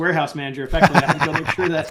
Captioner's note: laughing